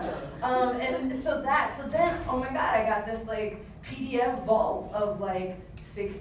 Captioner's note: laughs